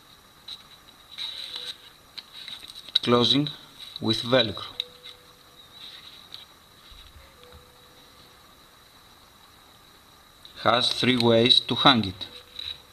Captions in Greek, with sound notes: Κλεινει με αυτοκολλητο velcro(σκριτς-σκρατς). Εχει 3 τροποθς για να την αναρτησετε.